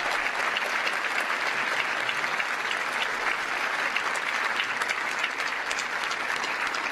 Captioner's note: cheers & applause